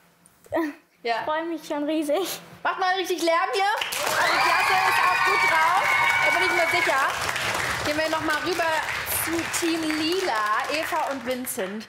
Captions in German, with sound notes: Ich freue mich riesig. Macht mal Lärm! *Applaus* Die Klasse ist gut drauf. Wir gehen zu Team Lila. Eva und Vincent aus Radebeul.